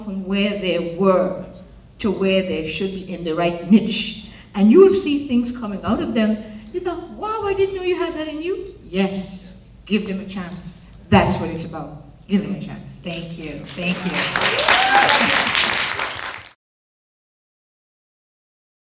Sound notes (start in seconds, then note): 13.6 applause; 13.6 voiceover